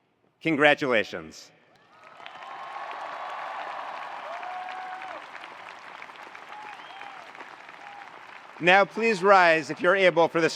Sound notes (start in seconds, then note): 1.9 attendees cheering; 1.9 attendees applauding